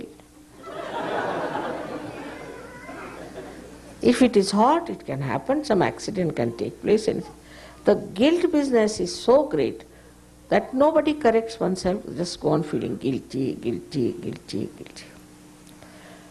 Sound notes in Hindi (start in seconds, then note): 0.6 big laughs; 3.9 हँसी